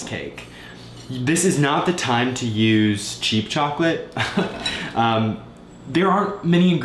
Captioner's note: chuckles